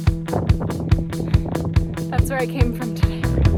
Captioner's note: wind whirring